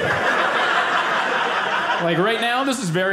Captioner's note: audience laughing